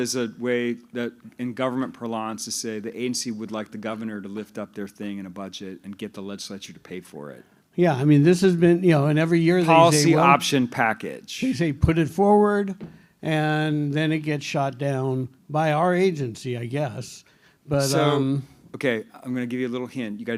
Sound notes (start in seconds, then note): none